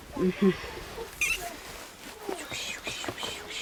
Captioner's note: guinea pig squealing; speaking foreign language